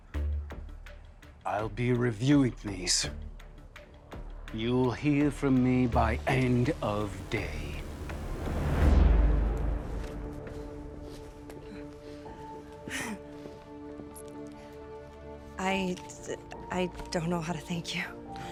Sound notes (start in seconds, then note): 12.8 Katie sighs in relief; 15.9 stutters